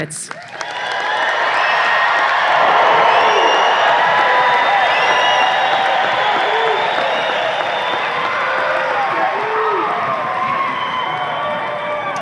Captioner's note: audience applause and cheers